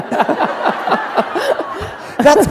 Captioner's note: laughter